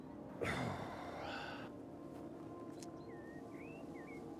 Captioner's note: man sighs